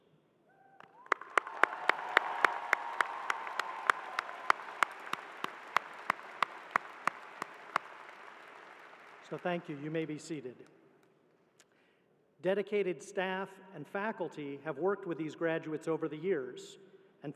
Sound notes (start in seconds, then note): 6.4 applause